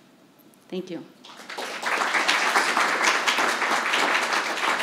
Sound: audience clapping

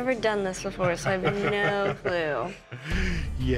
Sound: laughter

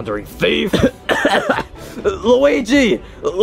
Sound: Mario coughs

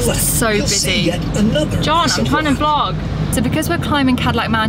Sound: audio guide starts talking

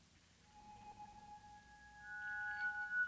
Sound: chiming

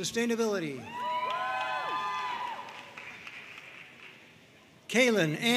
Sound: audience cheering and applauding

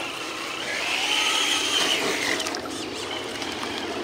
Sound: tires peeling

